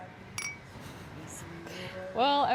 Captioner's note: glasses clinking